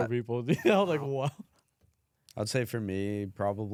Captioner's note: laughs